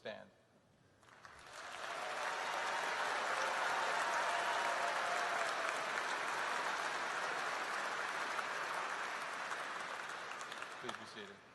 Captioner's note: applause